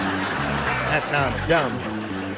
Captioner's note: laughter